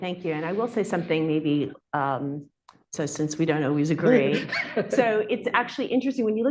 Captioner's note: laughter